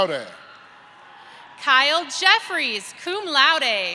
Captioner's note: applause